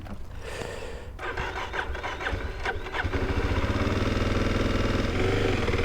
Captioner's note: engine slow to start